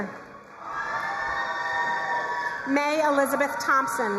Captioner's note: crowd cheering and applauding